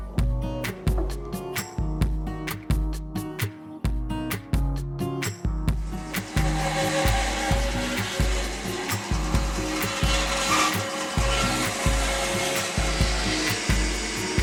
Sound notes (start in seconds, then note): 0.1 bright upbeat music; 6.3 saw buzzing